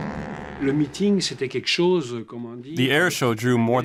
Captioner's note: speaking in French